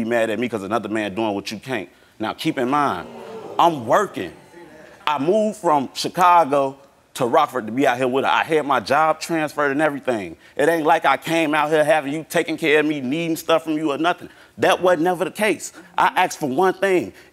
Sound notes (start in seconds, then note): 2.4 audience oohing